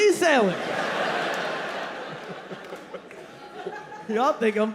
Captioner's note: audience laughing